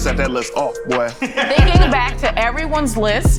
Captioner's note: laughs